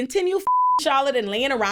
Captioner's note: beep